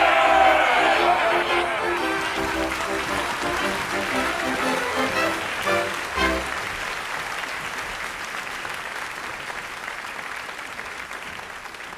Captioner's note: applause